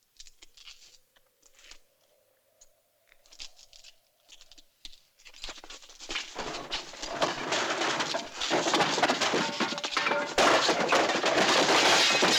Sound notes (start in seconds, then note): 6.3 clattering